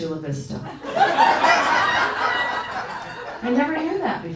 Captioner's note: audience howling